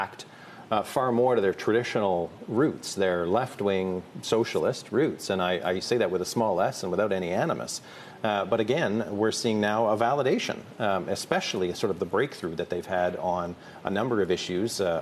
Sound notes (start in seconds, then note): none